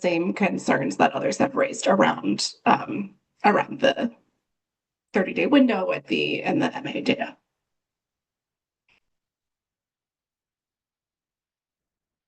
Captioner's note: pause